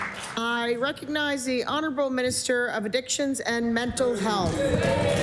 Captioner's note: applause